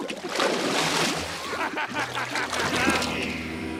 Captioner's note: laughing